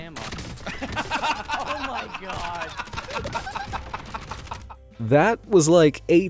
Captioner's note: gamers laugh